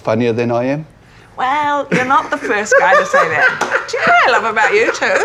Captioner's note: laughing